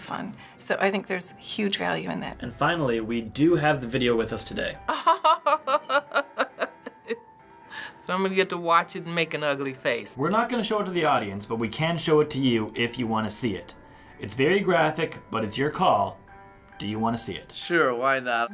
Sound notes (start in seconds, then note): 4.9 laughing